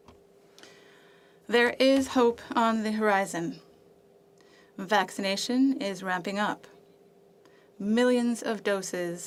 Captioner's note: speaking French